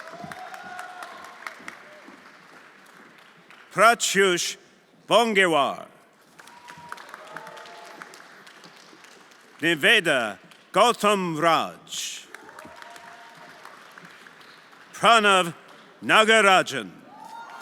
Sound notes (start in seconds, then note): 0.0 everyone applauding; 6.2 everyone applauding; 12.2 everyone applauding